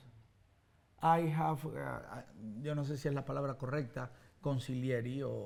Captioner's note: speaks Spanish